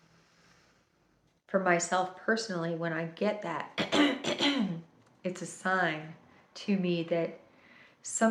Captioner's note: ahem, ahem